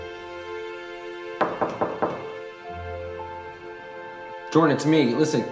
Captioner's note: David knocks